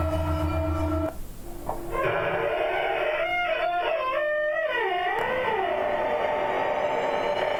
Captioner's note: squeaky door opening